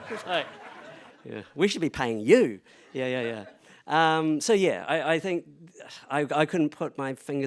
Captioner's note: laughter